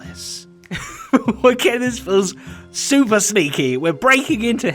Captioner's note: nervous chuckle